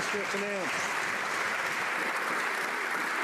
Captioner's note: some Applause